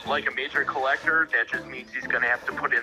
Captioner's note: on phone